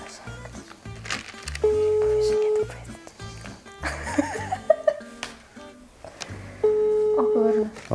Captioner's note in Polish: sygnał telefonu